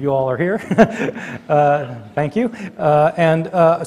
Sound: chuckles

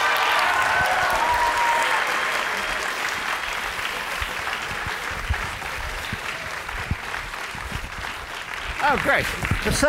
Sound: applause

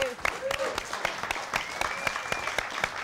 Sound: applause; cheers and applause

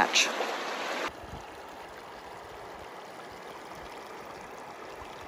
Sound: water trickling

